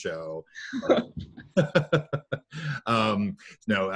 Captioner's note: laughs